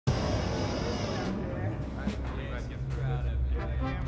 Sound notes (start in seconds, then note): 1.3 men talking